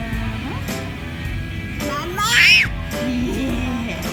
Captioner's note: screaming